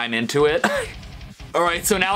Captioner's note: cough